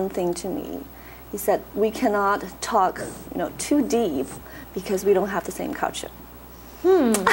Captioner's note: laughs